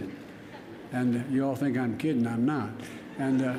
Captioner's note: laughter